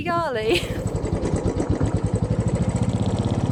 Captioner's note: bike engine